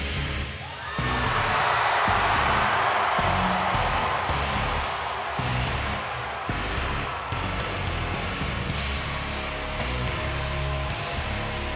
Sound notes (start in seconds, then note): 0.1 heavy metal music; 1.4 audience cheering